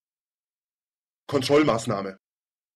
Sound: fast Pronunciation

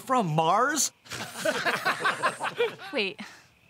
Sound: laughing

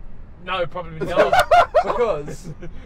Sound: laughs

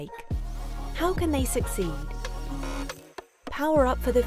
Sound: image buzzes

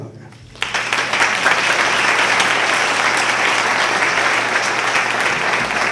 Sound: applause

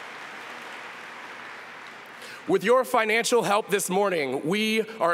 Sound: applause

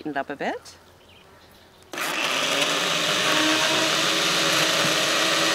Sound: blender whirs

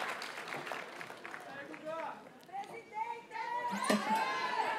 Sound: audience cheers and applauds; graduates chant

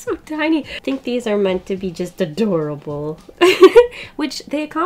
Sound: laughs

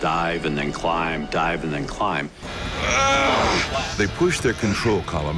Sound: pilot grunting

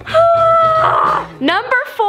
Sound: groans

